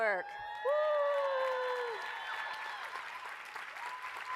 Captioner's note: applause, cheering